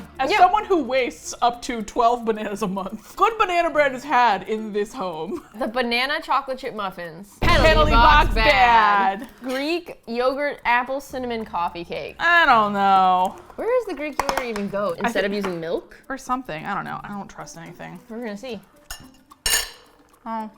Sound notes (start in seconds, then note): 5.2 laughs